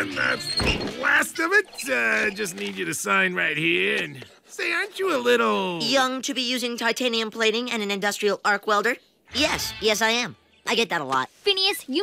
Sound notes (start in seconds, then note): none